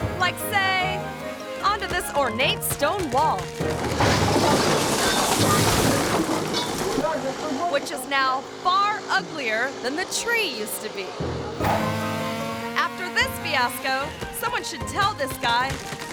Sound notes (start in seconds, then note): 3.8 tree crashing; 4.7 wall crashing; 7.1 landscaper shouting; 11.2 chainsaw roaring